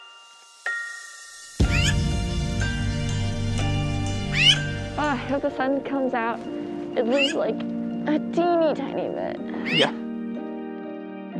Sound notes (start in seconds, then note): 1.7 bird squawks; 11.2 gentle music